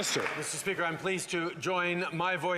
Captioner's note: applause